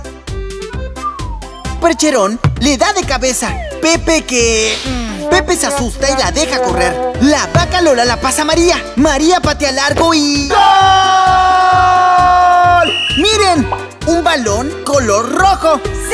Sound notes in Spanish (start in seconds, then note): 12.7 Sonido de silbato